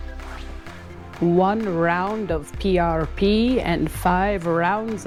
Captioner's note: in a poor attempt to sound like sponge bob